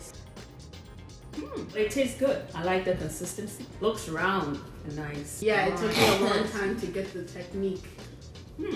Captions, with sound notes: - Hm! It tastes good. I like the consistency. It looks round and nice. - Yeah, it took me (sister coughs) a long time to get the technique.